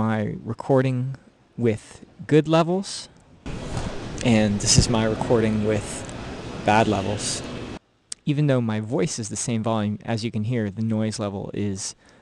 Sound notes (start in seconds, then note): 0.0 recorded sound being played back; 3.0 noise floor jumps up here